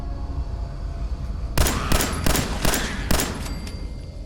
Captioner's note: blam! blam! blam! blam! blam!